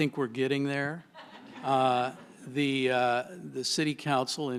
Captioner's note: laughter